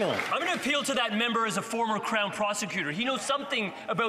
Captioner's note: some Applause